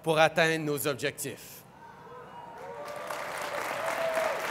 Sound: Applaudissements

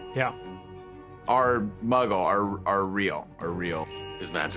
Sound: magical chime; magical chime

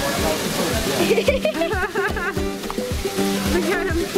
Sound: laughing

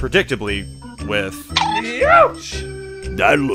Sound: cartoon poke sound

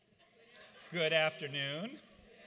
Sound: audience laughs

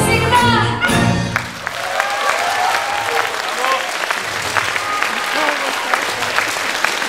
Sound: applause

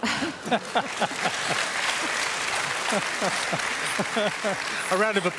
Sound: murmuring and applause; applause continues; laughs

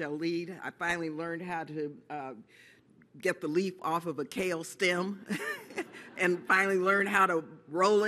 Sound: laughs

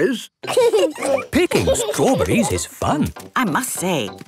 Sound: laughing

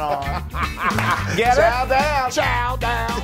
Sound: laugh

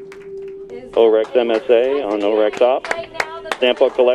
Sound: voice on radio

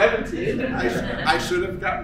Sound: laughter

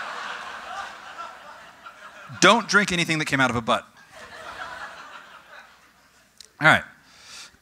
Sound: audience: Raucous laughter; audience: Still laughing

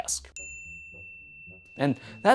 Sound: bell ringing

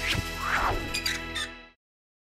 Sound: whoosh; creaking sign

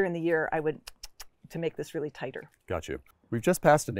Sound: tongue clicks

